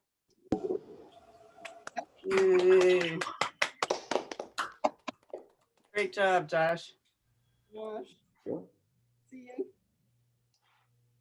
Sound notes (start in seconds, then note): 4.1 applause